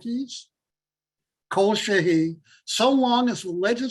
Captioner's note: Hebrew